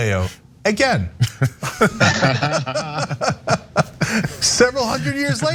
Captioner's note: laugh